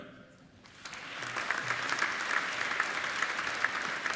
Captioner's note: applauding